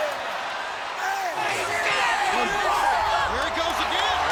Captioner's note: audience cheering